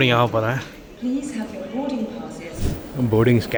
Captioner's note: announcement